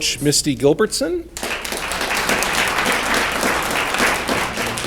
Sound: audience clapping

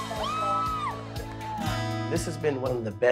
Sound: cheering

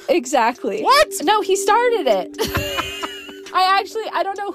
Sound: both laughing

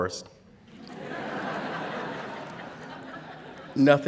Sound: laughter

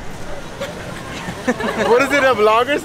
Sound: everyone laughs

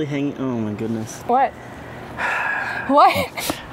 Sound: exhales; laughing

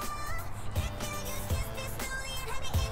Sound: under breath

